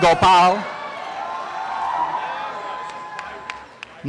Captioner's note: applause and cheering